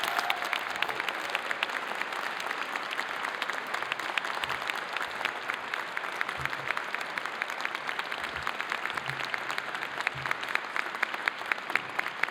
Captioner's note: applause